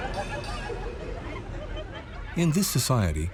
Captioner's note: laughter